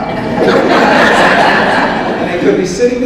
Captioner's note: audience laughs